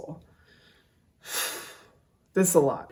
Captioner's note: sighs